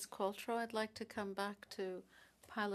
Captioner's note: speaking french